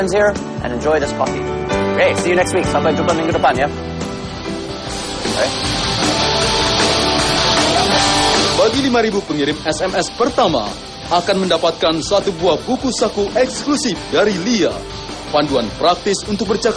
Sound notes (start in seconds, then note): 2.7 non-english speech; 12.7 non-english speech